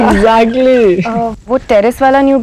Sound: all laughing

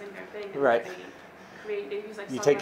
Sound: woman speaking faintly

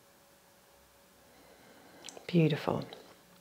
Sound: exhales

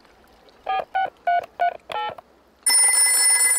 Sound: dialing; rings

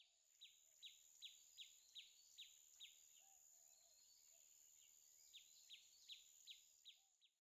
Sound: bird chirping

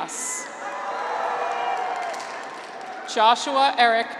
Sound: graduates cheer

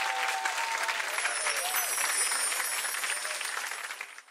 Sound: audience cheering and clapping; bells chiming

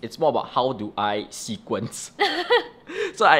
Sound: laughs

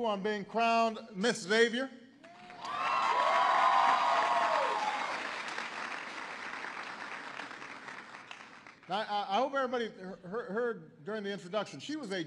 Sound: applause

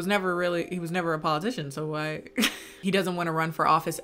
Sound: laughs

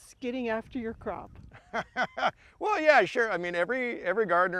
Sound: laughs

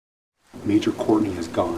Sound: thunder and rain

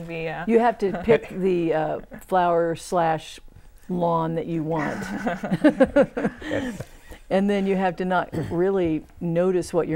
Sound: laughing

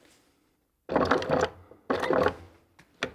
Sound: sewing machine rattles

